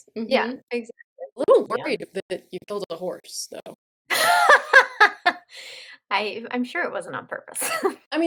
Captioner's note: laughter